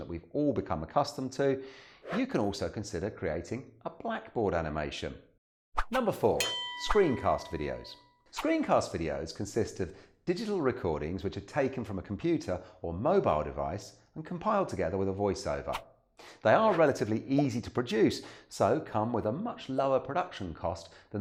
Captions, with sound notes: that we've all become accustomed to, you can also consider creating a blackboard animation (bell rings) Number four, screencast videos. Screencast videos consist of digital recordings which are taken from a computer or mobile device and compiled together with a voiceover. They are relatively easy to produce, so come with a much lower production cost